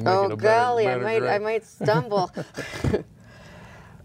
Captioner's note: laughs